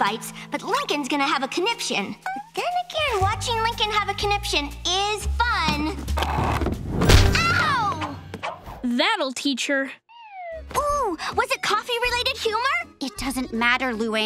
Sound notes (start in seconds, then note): none